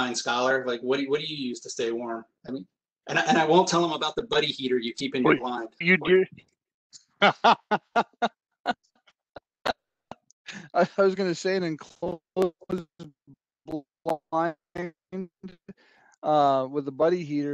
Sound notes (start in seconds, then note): 7.2 laughs